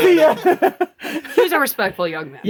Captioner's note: all laugh